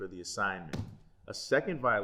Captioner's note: thump